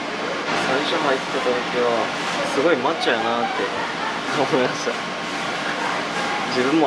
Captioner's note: laughs